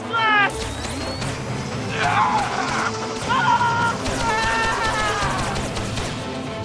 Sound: screaming

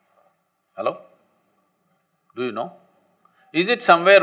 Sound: none

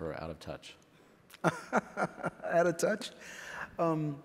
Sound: laughs

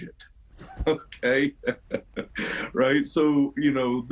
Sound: laughs

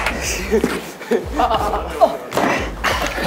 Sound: groaning everywhere

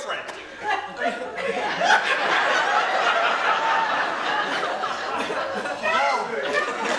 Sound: audience laughter

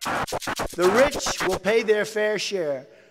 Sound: Donald Trump speaking

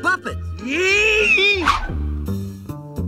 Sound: screaming

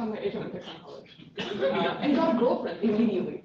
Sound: laughter

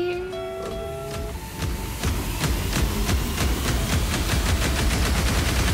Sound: distorted white noise

